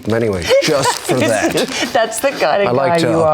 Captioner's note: laughs